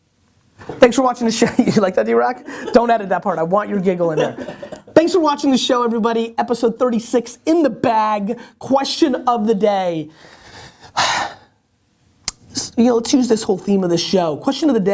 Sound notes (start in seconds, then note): 2.4 giggling off camera; 10.3 sighs